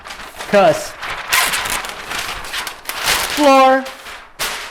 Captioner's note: paper sheet crunching